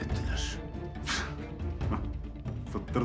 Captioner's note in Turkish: Gülme sesi